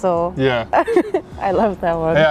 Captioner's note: Anna giggles